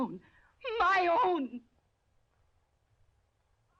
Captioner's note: gasping